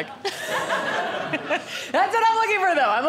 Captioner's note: audience laughing